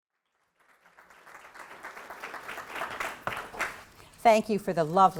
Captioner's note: applause